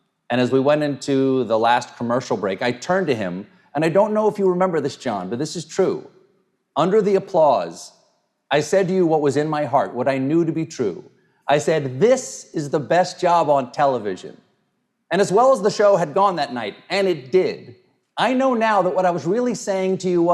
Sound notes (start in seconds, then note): none